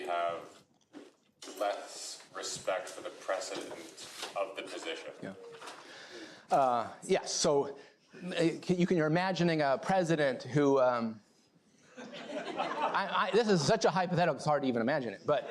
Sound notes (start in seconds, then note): 11.9 laughter